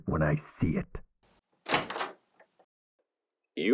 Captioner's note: door opens